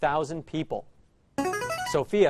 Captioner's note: answer bell